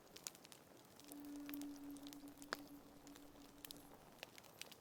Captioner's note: fire crackling